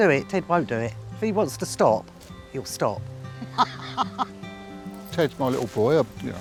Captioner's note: laughs